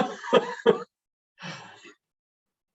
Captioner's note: chuckles